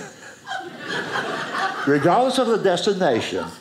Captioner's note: audience laughing